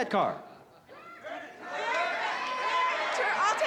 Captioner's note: crowd shouting